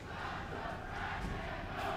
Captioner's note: fans chanting